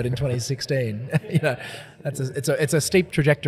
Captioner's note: laughs